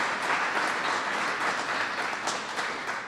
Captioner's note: applause